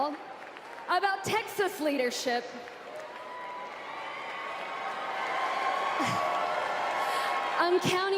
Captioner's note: applause